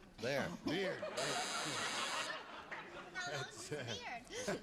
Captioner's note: buzzer